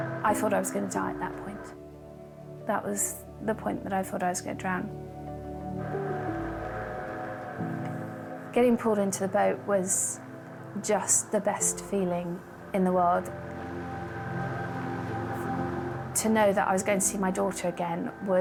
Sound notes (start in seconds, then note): 0.0 boat droning; 0.0 pensive music; 5.4 pensive music; 6.3 boat droning; 13.4 intense music; 14.3 boat droning